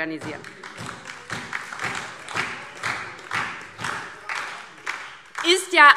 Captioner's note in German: Beifall DIE LINKE, SPD und Freie Demokraten